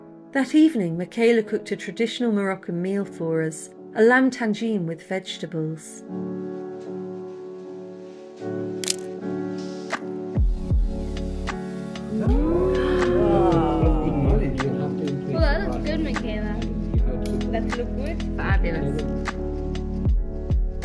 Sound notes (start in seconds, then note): 6.2 chill music; 12.1 collective 'oooh' and 'wow'